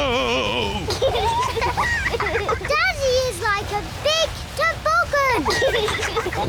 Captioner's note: both giggle